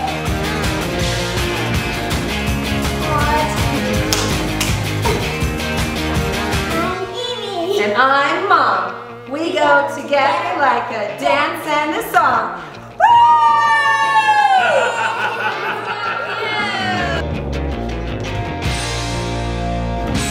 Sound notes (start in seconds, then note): 0.1 peppy music; 13.0 cheering; 14.6 laughs; 17.6 peppy music